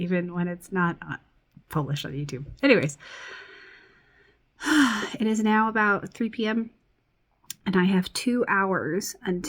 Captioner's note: sighs